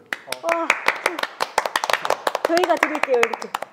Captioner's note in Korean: 짝짝짝